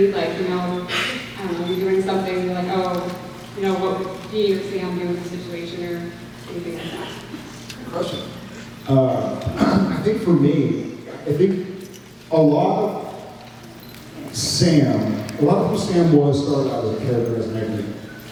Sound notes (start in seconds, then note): 9.4 clears throat